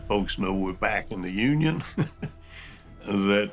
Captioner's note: chuckles